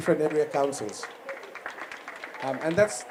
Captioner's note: applause